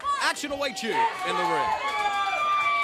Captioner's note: crowd cheering; crowd chatter